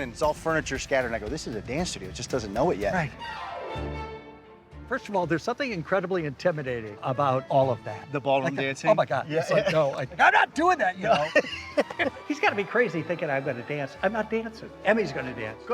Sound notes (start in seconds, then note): 3.9 lively music; 11.0 both laughing